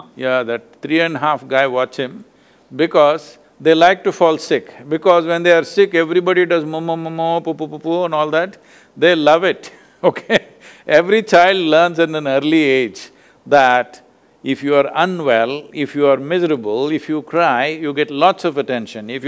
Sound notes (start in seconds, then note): 10.0 laughs